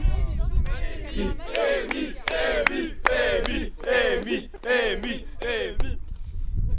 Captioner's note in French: applaudissements